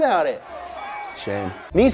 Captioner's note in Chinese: 铃响了